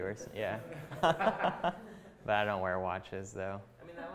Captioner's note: chuckling